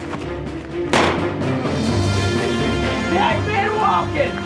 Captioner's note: gunshot